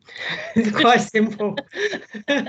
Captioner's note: laughter